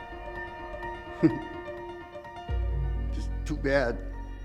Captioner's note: chuckles